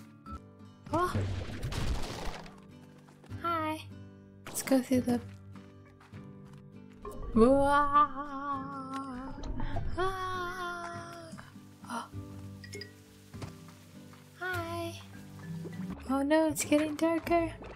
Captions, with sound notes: oh! Hi! Let's go through the- (silly scared noises) oh! Hi! Oh no, it's getting darker